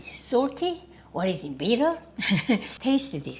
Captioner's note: chuckles